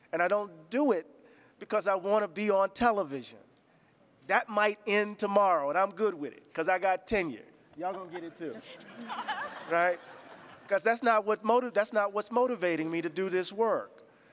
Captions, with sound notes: and I don't do it because I want to be on television. That might end tomorrow and I'm good with it 'cause I got tenure. Y'all gonna get it too. (laughter) Right? 'Cause that's not what's motivating me to do this work.